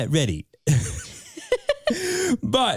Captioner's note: both laughing